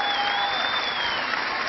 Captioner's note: cheering